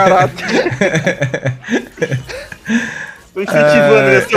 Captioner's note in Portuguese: risos